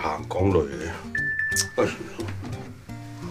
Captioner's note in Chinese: 訊息鈴聲